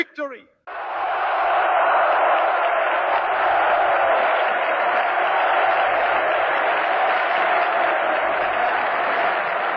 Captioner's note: crowd cheering